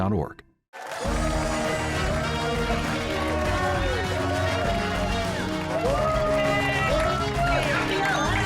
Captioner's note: cheers and applause